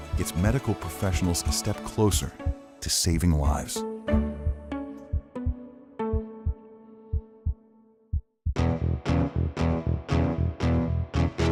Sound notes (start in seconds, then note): 4.0 upbeat music; 6.0 heart thumps; 8.5 upbeat music